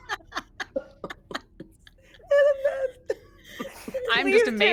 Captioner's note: group laughing